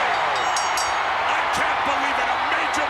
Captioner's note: applause